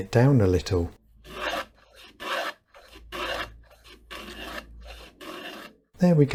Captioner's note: plane tool noises